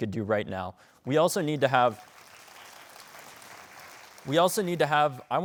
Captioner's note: audience applauding